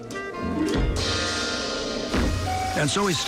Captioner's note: heavy footsteps